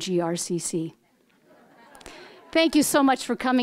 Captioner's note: audience laughing